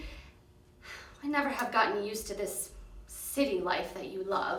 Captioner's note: sighs